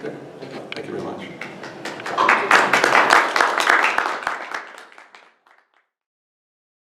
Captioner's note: applause